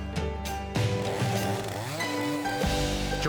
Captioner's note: upbeat music; saw buzzes